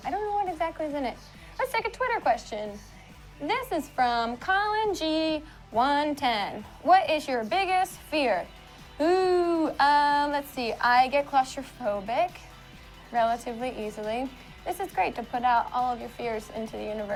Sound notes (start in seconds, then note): none